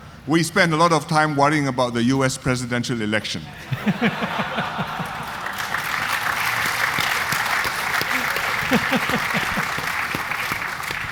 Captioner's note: audience laughter